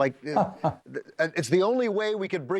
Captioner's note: laugh